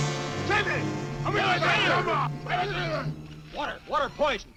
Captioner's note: men shouting